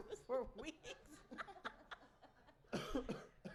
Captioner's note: laughter